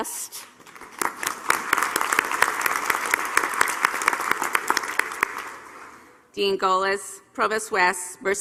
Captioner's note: applause